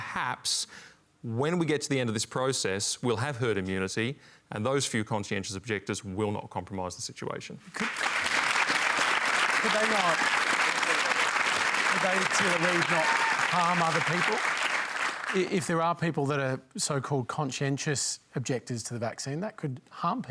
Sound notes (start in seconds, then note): 7.7 applause